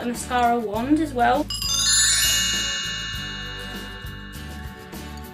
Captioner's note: bell transition sound effect